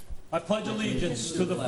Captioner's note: board Members In Unison